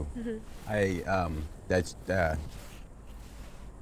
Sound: stammers

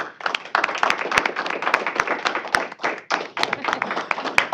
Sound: applause

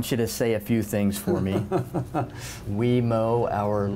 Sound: laughing

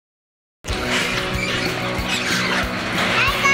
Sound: garage door opening

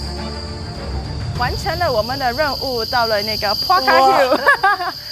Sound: dramatic music; speaking in foreign language; laughing

